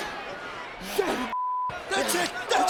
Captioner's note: beeps